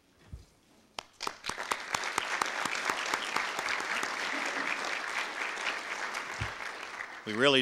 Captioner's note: audience applause